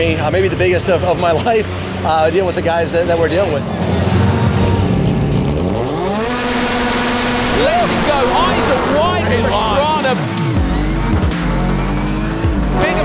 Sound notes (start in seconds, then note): 4.0 engines revving; 10.3 engines revving; 10.3 upbeat music